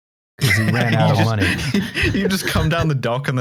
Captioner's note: laughter